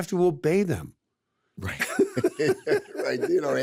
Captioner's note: both laugh